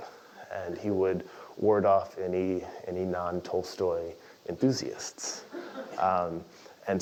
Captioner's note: laugh